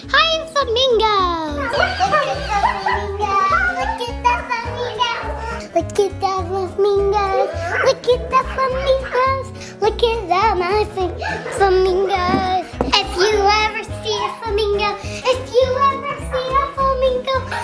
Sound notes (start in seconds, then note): 1.6 puppy barking